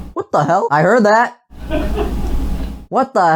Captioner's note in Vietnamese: cười